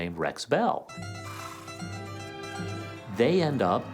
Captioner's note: horse snorts